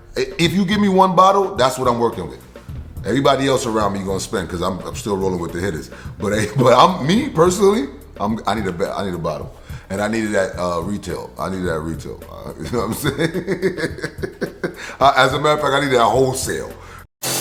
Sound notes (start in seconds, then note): 12.3 laughs